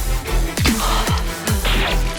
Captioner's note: exhale